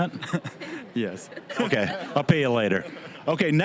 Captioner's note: laughing